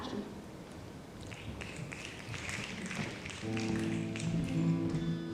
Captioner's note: snapping; guitar music